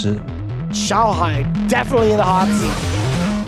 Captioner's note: commentator 1, in English